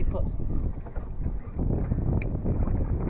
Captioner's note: wind blowing